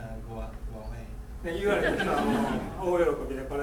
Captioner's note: speaking in foreign language; laughing